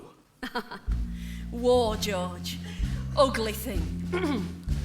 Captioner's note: chuckles